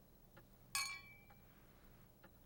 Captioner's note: glasses clinking